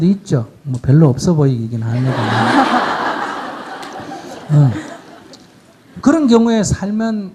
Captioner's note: audience Laughter